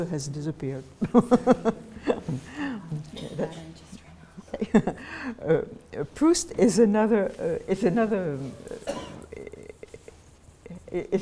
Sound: laughs

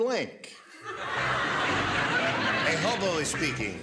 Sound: laughter

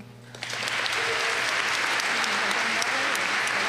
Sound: applause

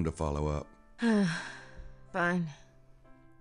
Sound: sigh

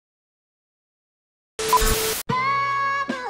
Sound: static noise followed by a beep

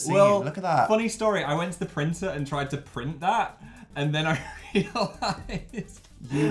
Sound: laughing

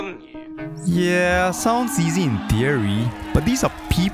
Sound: in English

